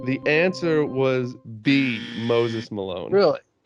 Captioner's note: alarm buzzer buzzes